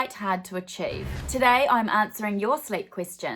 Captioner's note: swooshing